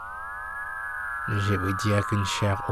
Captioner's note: voice-over